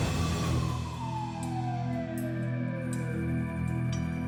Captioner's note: siren wails